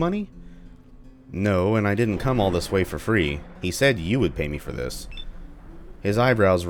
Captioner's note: thunder